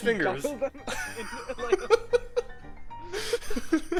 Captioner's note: more laughter